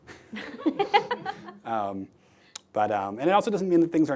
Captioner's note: laughing